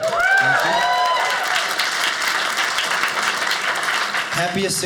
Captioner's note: audience cheers